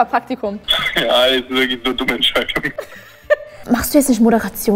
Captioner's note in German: lacht